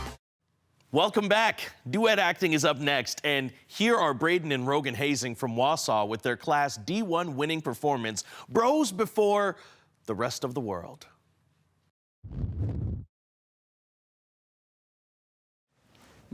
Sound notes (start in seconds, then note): 12.3 whoosh; 12.3 silent